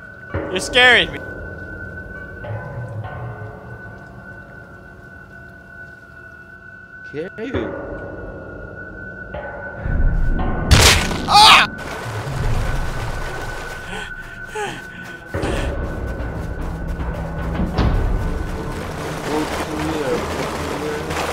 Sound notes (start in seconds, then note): 10.7 crunching flesh; 13.8 labored breathing; 15.9 suspenseful music